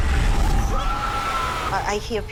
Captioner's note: screaming